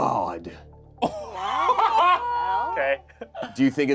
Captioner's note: group laughs